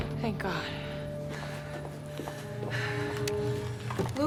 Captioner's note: footstep